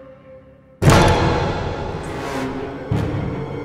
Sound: large Bang

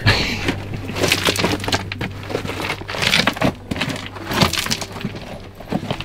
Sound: walking on rocks noises

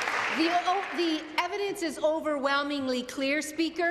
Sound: applause

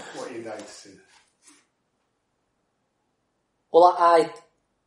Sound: laughs

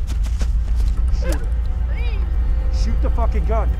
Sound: tense ominous music; sobbing

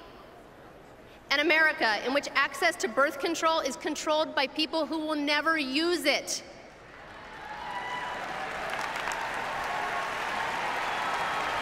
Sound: applause

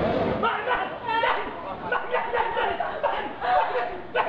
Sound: deranged screaming

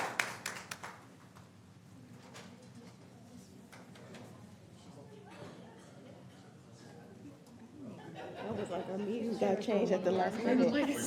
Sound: applause

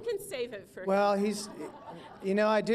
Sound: laughter

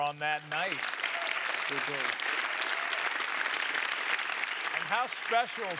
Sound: cheers and applause; applause

